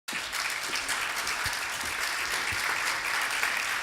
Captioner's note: applause